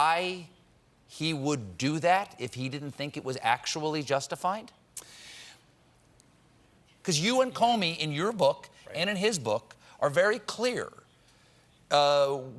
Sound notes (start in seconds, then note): none